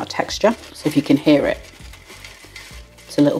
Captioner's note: scrunch scrunch scrunch